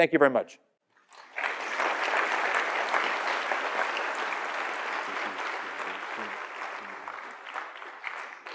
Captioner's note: applause